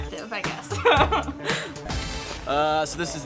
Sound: laughing

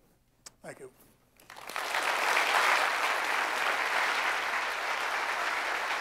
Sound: applause

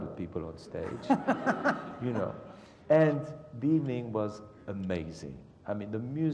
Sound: laugh

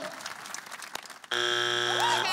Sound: buzzer sounds

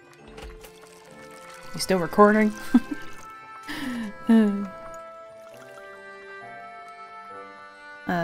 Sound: laughs... Sighs

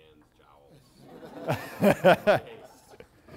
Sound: laughter

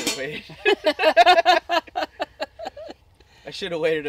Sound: laughing

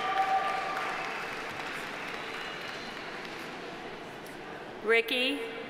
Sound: audience cheering; audience applauding

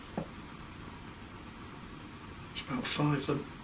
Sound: knocks

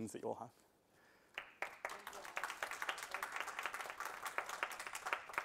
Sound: applause

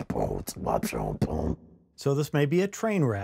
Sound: beatboxing

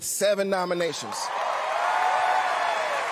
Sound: cheering; applause

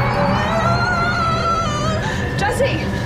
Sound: screaming

